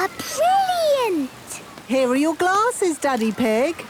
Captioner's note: splashes